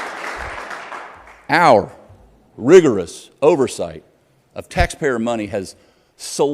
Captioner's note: applause